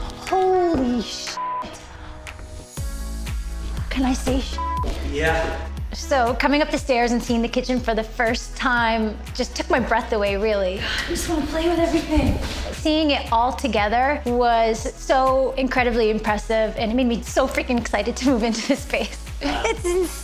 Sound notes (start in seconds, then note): 4.5 beep